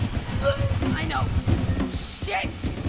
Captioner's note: vish groans